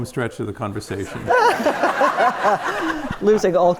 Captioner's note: audience laughs